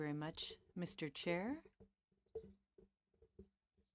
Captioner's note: speaking french